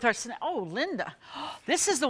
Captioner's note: gasps